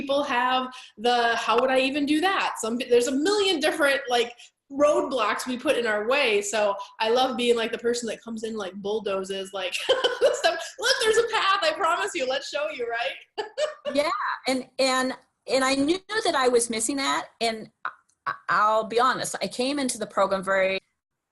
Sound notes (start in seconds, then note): 13.2 laughing